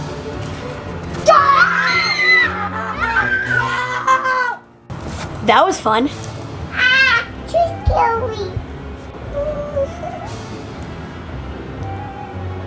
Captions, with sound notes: - Gaah! (girls scream) - That was fun. - Aah! Too scary. (crying)